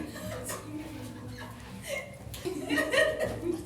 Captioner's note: women laughing